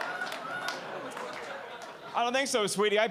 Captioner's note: audience laughing